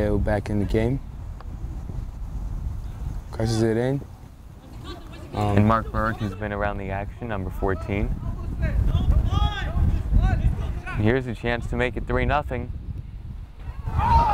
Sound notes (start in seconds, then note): 9.3 players talking and yelling